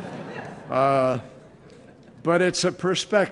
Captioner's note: laughter